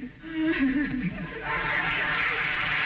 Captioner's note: sobbing; audience applauding; audience laughing